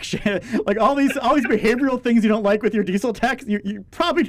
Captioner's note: laughs